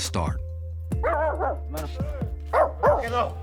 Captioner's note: dogs barking